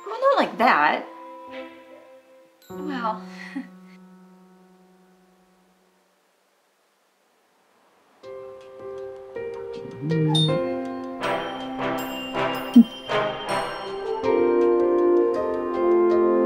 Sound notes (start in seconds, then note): 5.0 chuckles; 8.3 suspenseful music; 10.3 bell ringing